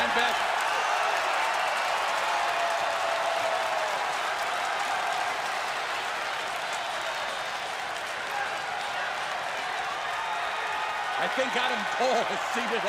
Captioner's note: crowd cheering